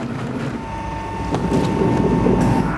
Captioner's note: light whirring